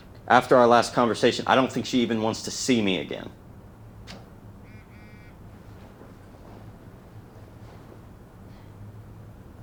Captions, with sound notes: After our last conversation, I don't think she even wants to see me again. (phone vibrates)